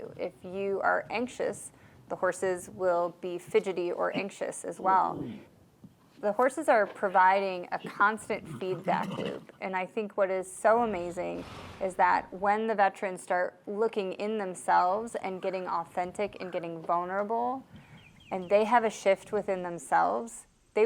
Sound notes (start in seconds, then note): 5.0 horse groans